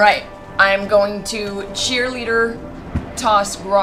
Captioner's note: none